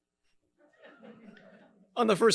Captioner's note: audience members chuckling